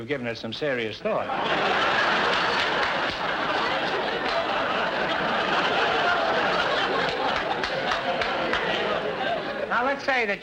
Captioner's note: audience laughter